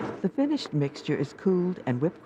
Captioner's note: voiceover